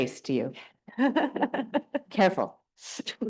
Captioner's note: panelists laughing